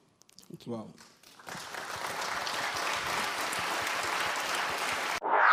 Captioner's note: applause